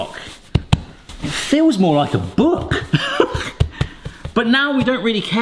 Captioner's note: laughs